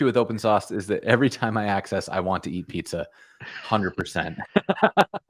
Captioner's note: laughter